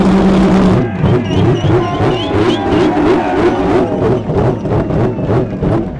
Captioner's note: race car revving continues; crowd clamoring and clapping